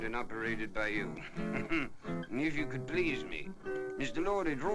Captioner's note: muted chuckle